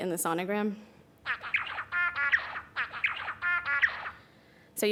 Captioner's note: bird singing